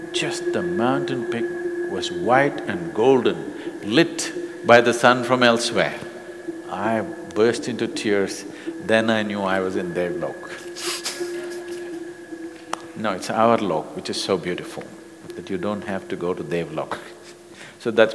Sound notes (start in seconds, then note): 10.7 laughs